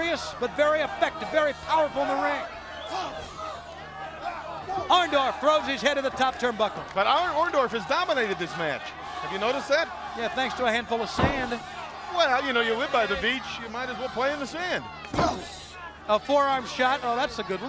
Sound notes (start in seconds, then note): 4.0 crowd chatter